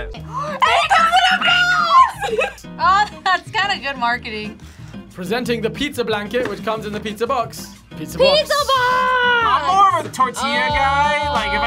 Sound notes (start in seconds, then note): 0.4 laughs